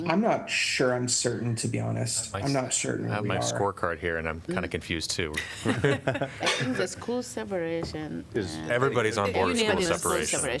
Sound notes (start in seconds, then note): 5.3 laughter